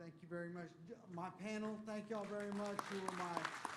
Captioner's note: applause